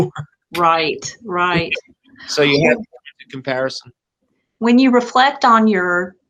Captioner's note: laughs